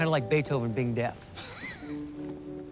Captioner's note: chuckles